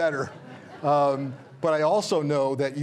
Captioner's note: audience chuckles